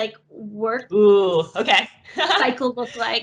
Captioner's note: laughs